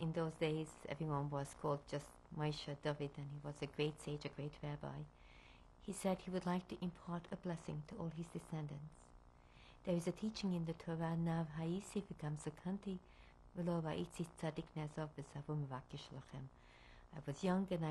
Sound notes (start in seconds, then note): 12.3 non-english speech